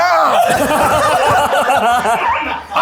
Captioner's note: everyone laughing